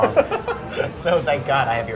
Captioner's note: laughs